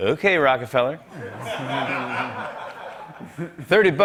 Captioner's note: laughter